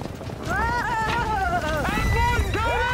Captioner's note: horse neighs; cowboys yelling